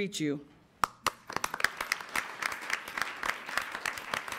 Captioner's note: applause